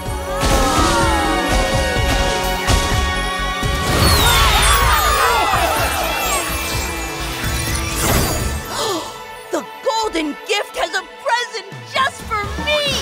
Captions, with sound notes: [gasping] - Wow! - Whoa! Yeah! [gasping] The golden gift has a present just for me!